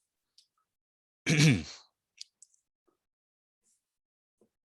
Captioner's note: clears throat